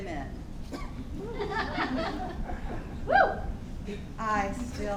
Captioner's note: audience laughing